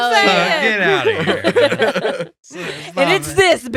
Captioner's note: laughing